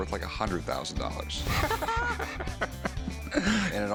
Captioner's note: laughing